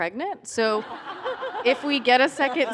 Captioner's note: laughter